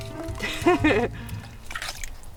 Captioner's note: chuckles